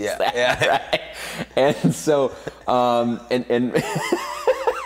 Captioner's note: both laughing